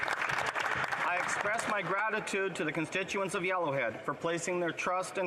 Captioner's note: some Applause